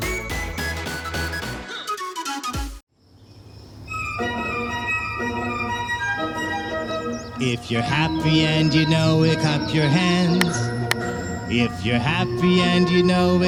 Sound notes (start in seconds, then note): 10.1 clap Clap